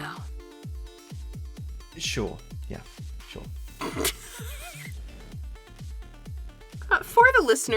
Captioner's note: chuckles